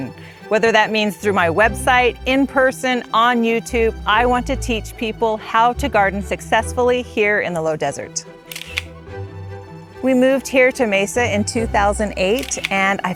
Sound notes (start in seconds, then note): 8.5 camera shutter clicks